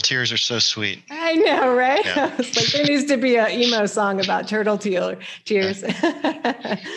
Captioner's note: laughs